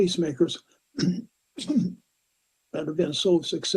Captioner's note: clears his throat